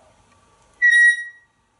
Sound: whistle

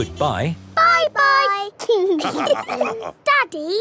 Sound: all laughing

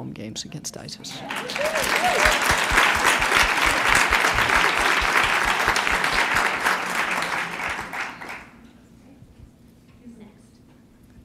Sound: applause

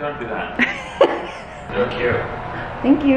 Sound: laughs

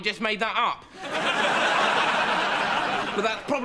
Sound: audience laughs

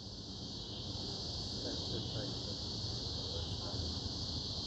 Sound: crickets chirping

